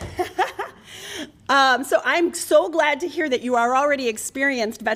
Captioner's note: laughter